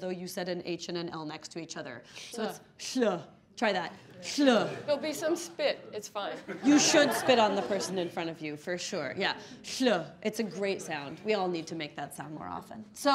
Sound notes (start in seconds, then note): 2.7 pronounces diphthong; 9.9 pronounces diphthong